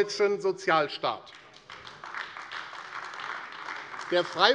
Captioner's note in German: Beifall AfD